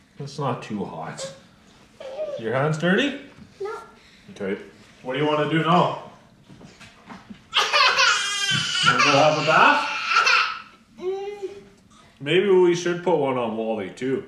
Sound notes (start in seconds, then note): none